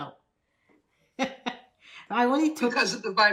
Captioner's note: laughing